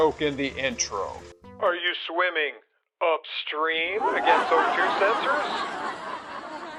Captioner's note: laughter